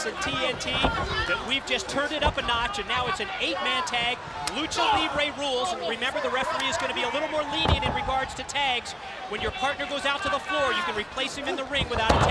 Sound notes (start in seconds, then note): 5.0 hands thudding; 7.6 body thudding; 11.8 body thudding; 12.1 hands clapping